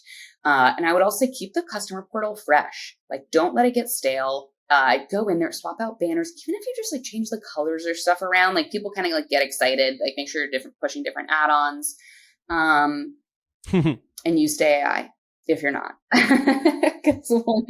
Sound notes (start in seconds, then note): 13.6 laughs; 16.5 laughs